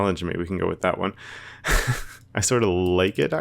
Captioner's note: laughs